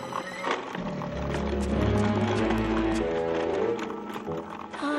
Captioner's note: alligators growling